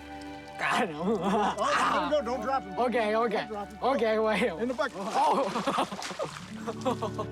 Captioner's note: laughs